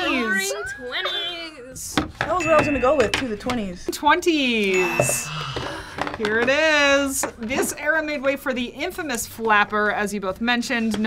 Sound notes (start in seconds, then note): 4.7 ding; 5.2 relieved sigh